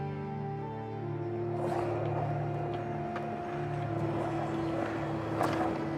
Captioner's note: rolling wheels